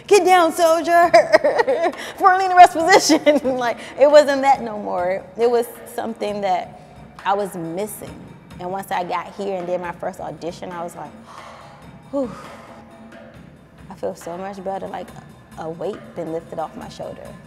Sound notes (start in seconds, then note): 1.0 laughing; 12.3 sigh